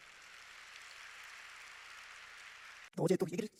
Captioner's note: applauding because it's cute